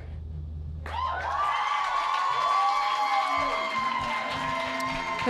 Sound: audience applauds and cheers

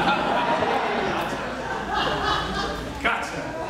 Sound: audience laughing

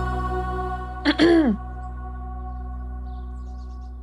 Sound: clearing throat

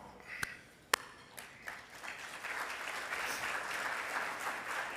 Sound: audience applauds

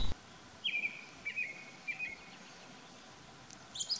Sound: bird singing

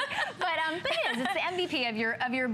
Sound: laughter

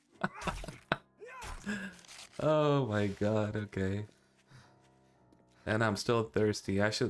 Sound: laughs

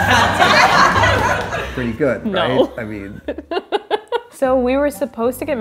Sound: laughs

